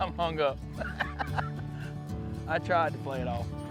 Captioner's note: laughs